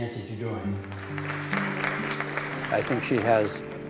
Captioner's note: applauding